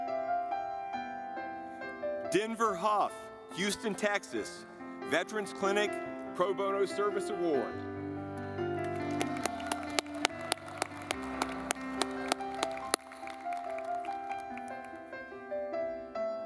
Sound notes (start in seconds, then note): 8.5 gentle music; 8.8 audience clapping